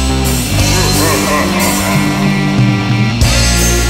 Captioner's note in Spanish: Creepy Laugh